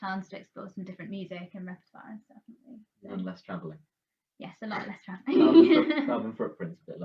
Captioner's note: laughter